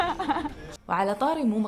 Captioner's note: laughs